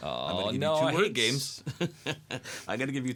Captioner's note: laughs